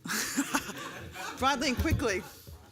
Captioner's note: laughter